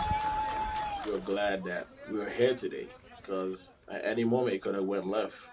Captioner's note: applause